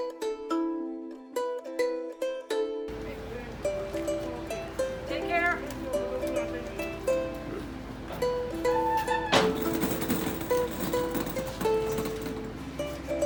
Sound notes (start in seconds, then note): 6.2 bright music; 9.7 stroller rolling